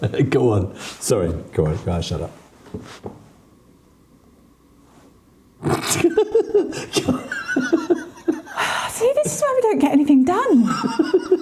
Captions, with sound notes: Go on, sorry, go on, go on, (laughing) See, this is where we don't get anything done.